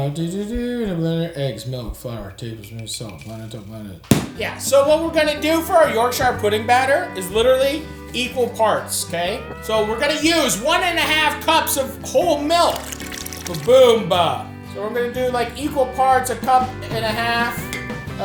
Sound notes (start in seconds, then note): 4.1 book thuds; 12.4 milk sploshes